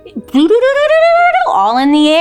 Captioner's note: imitate electricity crackling